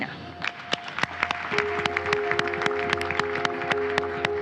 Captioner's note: audience applauding